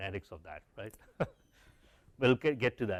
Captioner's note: laugh